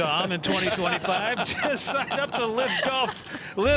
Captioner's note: laughter